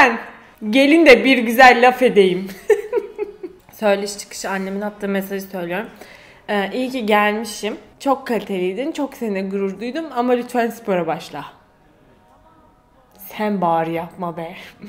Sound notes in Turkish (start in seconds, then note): 2.6 gülüyor